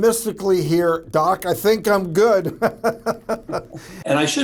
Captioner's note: laughs